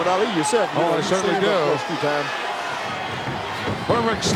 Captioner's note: Hillbilly mumbling